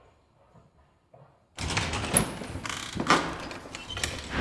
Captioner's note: door opening and closing